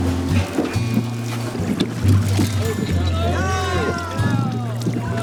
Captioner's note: cheering